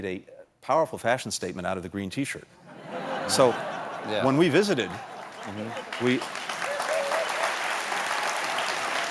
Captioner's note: applause